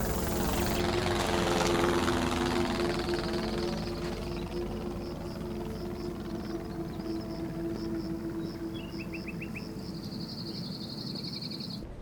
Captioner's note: helicopter motor